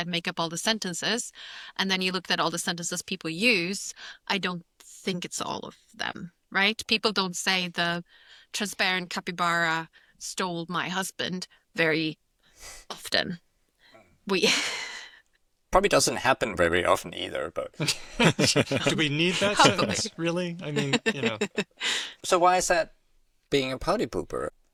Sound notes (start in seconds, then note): 17.8 laughter